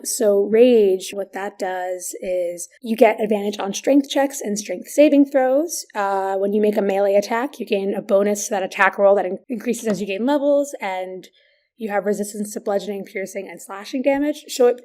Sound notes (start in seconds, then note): none